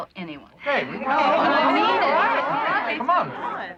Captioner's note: chattering